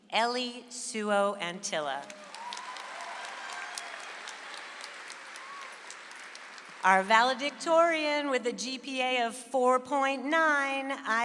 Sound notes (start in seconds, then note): 2.0 audience applauds